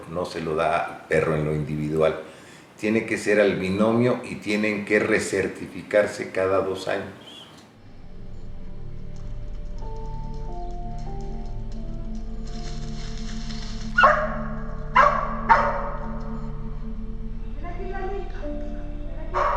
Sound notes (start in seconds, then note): 7.8 eerie music; 14.9 dog barks